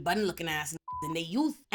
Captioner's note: beep